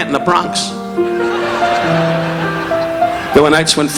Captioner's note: audience laughing